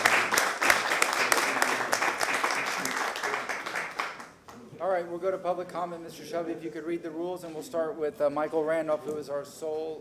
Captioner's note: applause